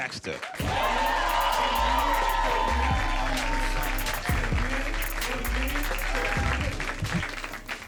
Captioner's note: audience cheering